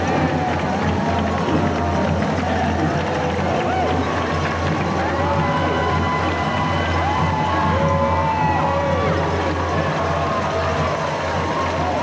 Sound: cheering

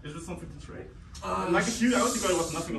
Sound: none

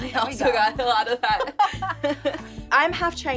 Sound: both laughing

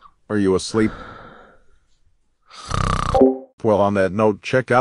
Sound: snoring.mp3

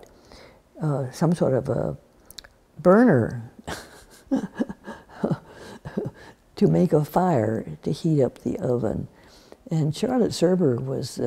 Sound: laughs

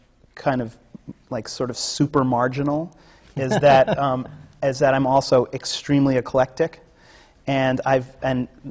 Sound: laughs

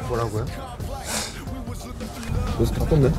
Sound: sniff

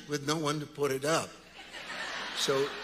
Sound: congregants laughing

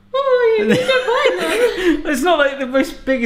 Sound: laughing

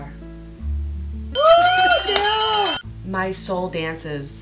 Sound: bell rings

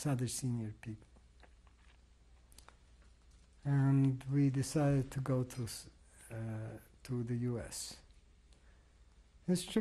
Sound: pauses for 3 seconds

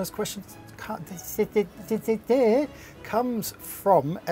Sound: stumbles over words

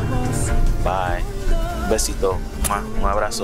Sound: Papi speaks in Spanish

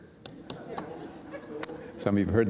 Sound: laughter

